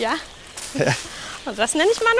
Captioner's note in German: lacht